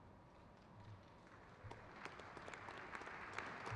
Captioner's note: crowd claps